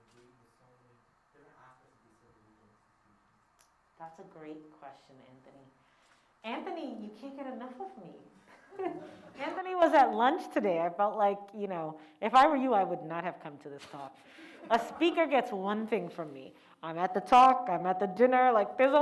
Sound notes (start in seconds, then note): 8.4 laughs